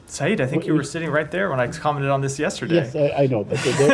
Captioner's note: laughter